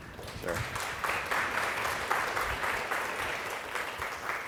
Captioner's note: audience applauding